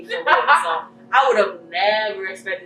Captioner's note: laughing